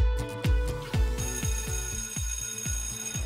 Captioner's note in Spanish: timbre de la escuela